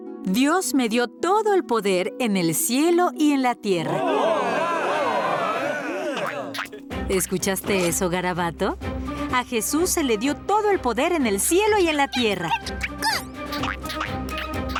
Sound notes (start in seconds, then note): 3.9 cheering; 11.9 squeaking